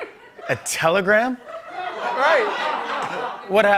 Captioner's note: laughter